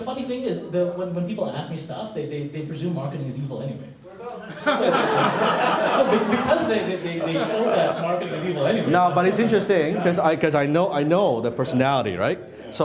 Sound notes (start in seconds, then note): 4.3 laughing